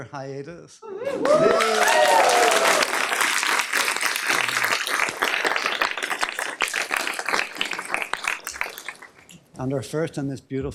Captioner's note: cheering